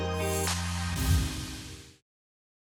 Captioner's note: whoosh